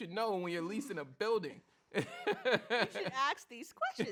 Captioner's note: laughs